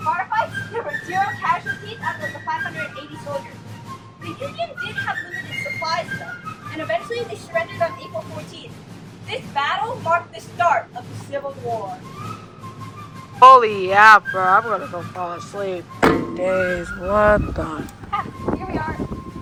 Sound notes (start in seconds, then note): 16.0 thonk